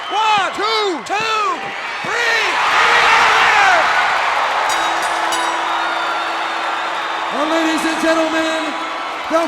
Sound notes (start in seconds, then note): 3.0 crowd cheering; 4.6 bell chiming